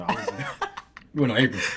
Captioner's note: laughing